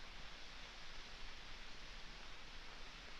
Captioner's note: none